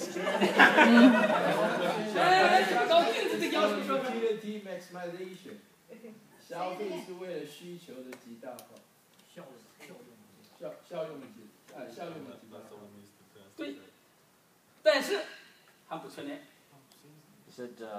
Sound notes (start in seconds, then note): 0.0 group laughing; 2.6 speaking foreign language; 7.7 speaking foreign language; 14.9 speaking foreign language